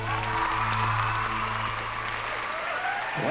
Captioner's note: cheers and applause